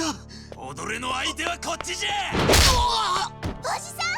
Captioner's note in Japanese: 叫び声